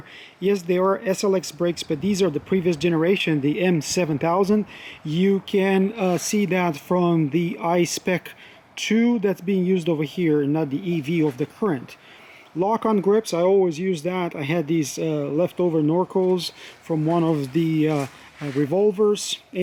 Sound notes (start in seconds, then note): 11.9 brakes